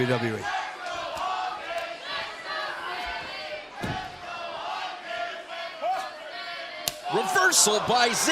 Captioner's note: crowd cheering